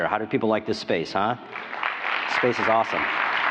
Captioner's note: applause